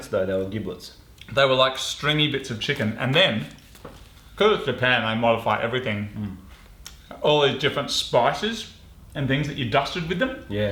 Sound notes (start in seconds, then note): none